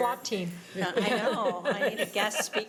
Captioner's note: laughing